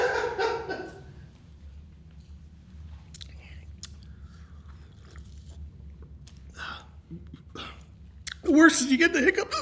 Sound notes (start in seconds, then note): 0.0 laughing; 4.2 sips water